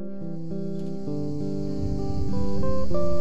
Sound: cicadas

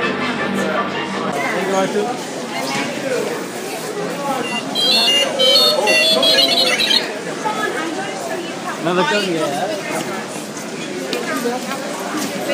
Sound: robot sounds

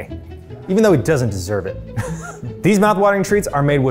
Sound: chuckles

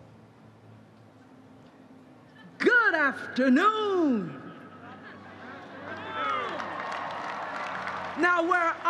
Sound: applause

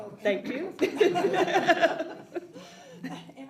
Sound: audience laughs

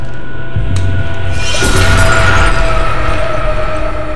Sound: glass shatters

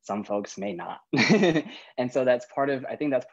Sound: laughing

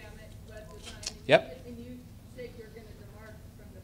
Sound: voiceover

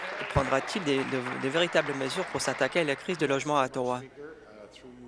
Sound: applause

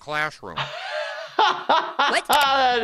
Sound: laughing

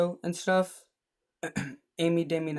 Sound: cough

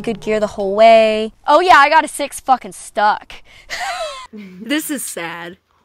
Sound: laughing

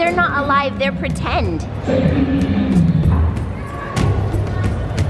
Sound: dinosaur roars

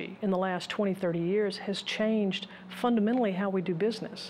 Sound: none

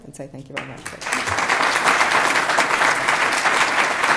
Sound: applause

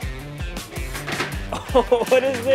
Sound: hearts thudding; laughing

